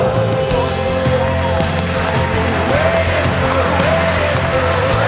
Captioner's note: clapping and cheering